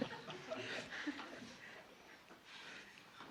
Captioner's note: laughter